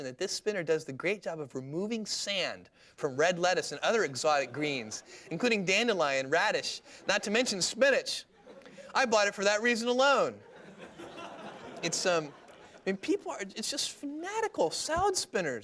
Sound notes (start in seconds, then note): 10.4 laughter